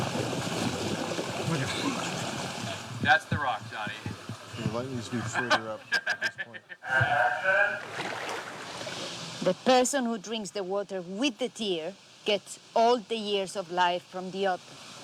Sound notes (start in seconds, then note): 1.4 chuckling; 5.0 laughs